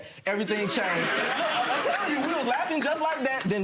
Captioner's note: audience laughing